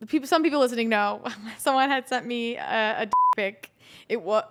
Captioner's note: beep